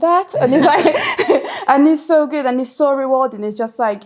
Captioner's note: laughs